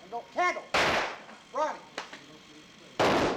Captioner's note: gunshot; gunshot